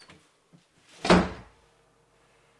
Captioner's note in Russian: хлопок двери